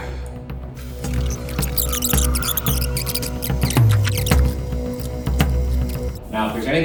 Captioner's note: tense music; videotape squealing